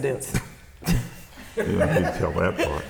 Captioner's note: laughs; interviewer laughing